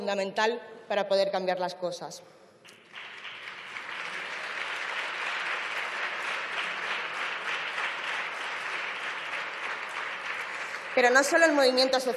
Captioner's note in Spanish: Aplausos